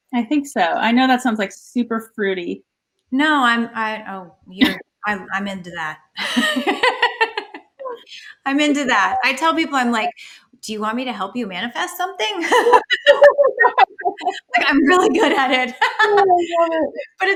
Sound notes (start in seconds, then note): 6.1 laughs; 12.4 laughter